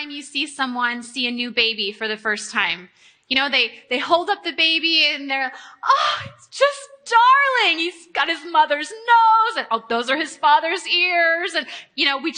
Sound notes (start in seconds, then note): 5.5 gasps